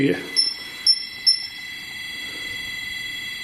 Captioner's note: beeping